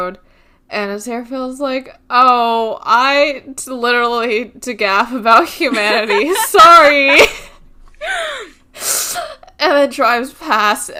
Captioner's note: laughing